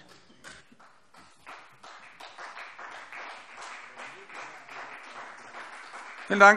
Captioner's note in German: Beifall CDU und BÜNDNIS 90/DIE GRÜNEN